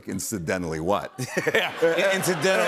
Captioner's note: laughter